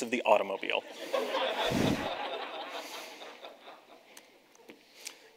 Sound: audience laughs

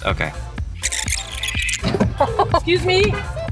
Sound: video winding; laughing

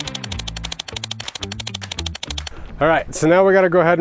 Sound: snipping

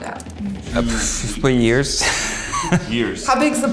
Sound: laughs

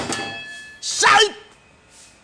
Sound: shouts

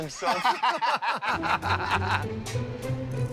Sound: laughter

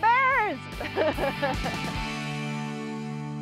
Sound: laughs

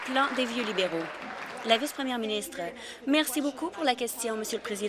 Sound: applause

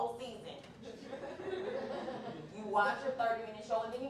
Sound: laughter

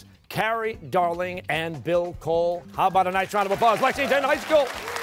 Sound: cheers and applause

